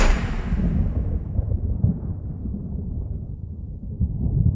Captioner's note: thunder rolling